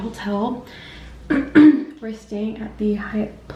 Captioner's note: clears throat